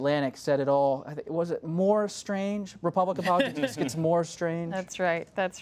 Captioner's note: laughter